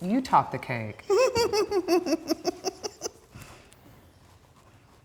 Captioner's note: giggling